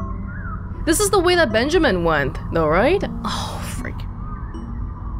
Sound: sighs

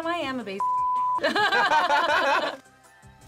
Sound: both laugh

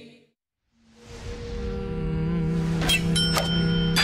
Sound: whoosh, hum; clink, sparkle sounds

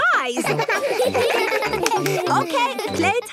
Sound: children giggling

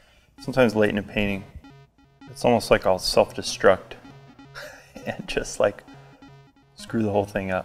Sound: chuckles

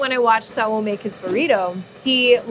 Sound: air whooshing

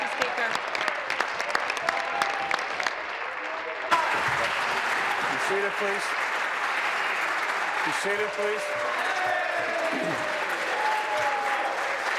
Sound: applause

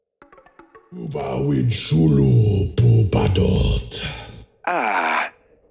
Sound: speaking Huttese

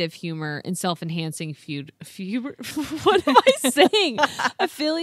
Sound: stutters

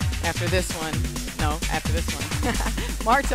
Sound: laughs

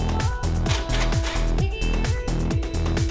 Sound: air-powered rattle gun

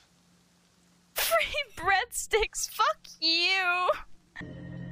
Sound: laugh/crying

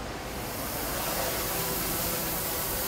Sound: drone Whirring

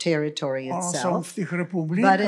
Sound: foreign language

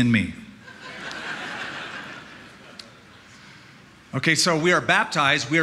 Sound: laughter

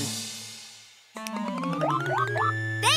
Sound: snaps fingers

